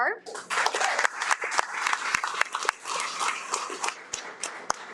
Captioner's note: audience applauding